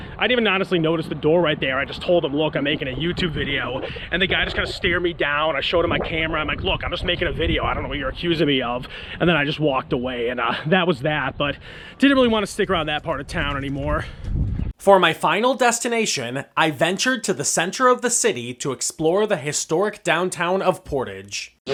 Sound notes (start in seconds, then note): 14.3 voiceover